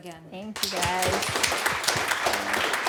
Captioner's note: applause